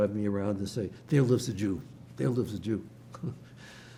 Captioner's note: laughing